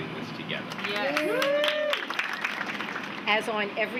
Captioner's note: clapping, cheering